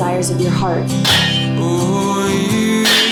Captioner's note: lids clanging